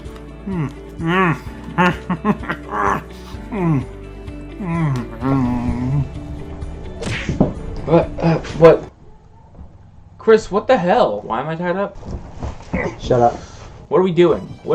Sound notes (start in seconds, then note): 6.7 Cookie Monster Noises; 7.0 smack